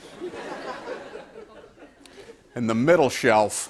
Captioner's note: laughter